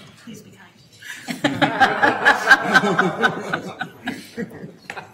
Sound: everyone laughing

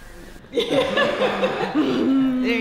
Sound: laughter

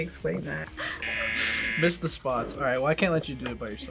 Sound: buzzer

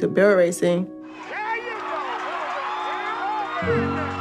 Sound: cheering

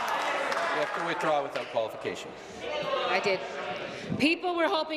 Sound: applause

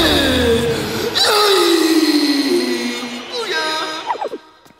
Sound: screaming

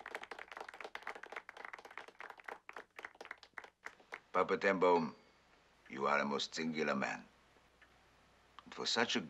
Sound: applause

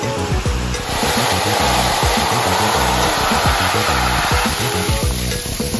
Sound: water gushing; upbeat music

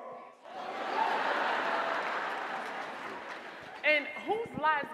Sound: audience laughing

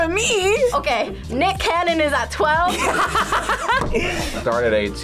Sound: laughs

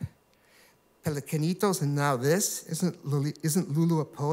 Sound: spanish

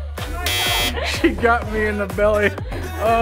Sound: buzzer buzzes

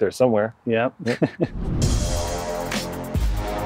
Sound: laughs; upbeat music

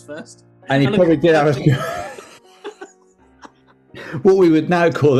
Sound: giggling

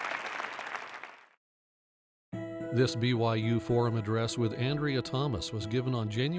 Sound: applause

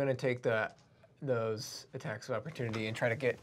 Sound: none

